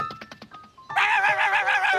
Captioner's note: barking